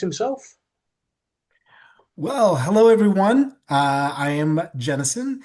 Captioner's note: American accent